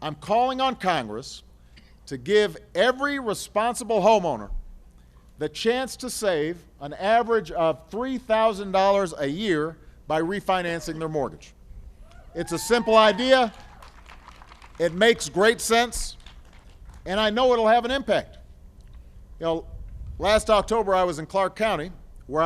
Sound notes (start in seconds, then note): 12.7 applause